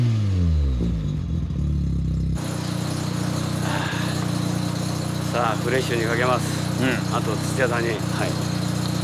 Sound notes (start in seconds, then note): 3.6 sigh